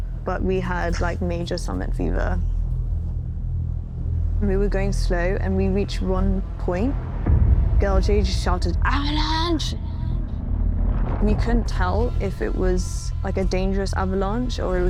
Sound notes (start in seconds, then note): 10.7 distant rumbles